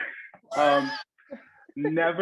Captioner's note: all chuckle